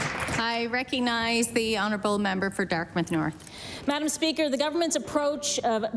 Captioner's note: applause